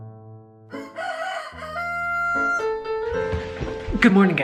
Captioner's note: rooster crowing